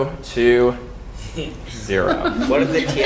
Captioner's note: laugh